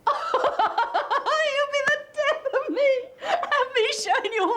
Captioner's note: laughs